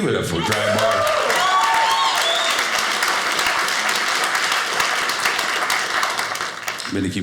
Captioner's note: audience applauding